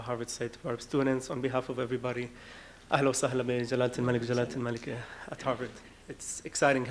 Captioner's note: speaking arabic